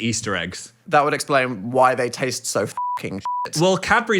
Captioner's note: beep